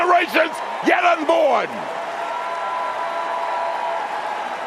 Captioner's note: cheers and applause